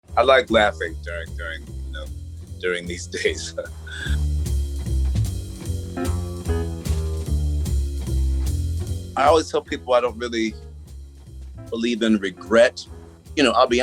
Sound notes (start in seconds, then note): 3.1 laughs; 4.8 light, upbeat music